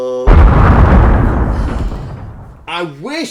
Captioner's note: explosion